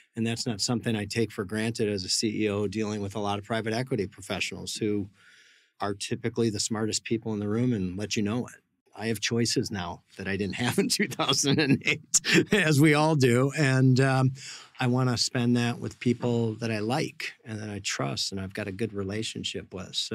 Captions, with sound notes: And that's not something I take for granted as a CEO dealing with a lot of private equity professionals who are typically the smartest people in the room and lets you know it. I have choices now that I didn't have in 2008 (laughs), as we all do. And, um, I want to spend that with people that I like and that I trust and I've got a good relationship with.